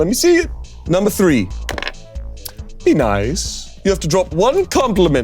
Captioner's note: dice rolls